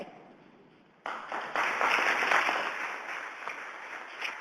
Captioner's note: audience applauds